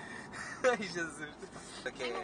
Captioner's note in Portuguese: Risos